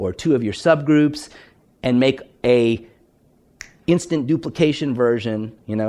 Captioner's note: snaps fingers